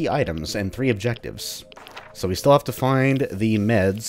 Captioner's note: journal opens